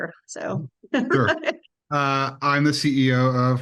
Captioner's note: chuckles